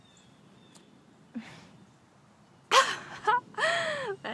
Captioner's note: Donna laughing